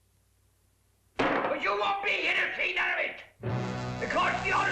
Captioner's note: bang